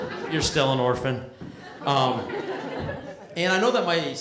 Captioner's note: laughter